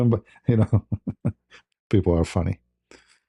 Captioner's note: ketawa